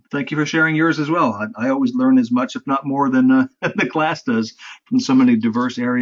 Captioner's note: laugh